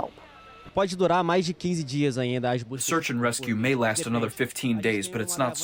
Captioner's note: through translator